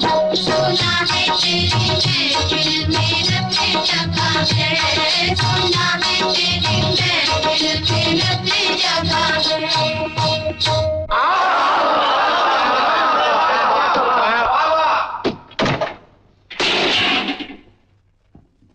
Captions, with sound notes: "I've heard tonight is the night Of celebration" "I've heard tonight is the night Of celebration" Wow! Very good. (Door thuds) (Vase shatters)